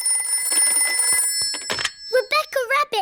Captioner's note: phone rings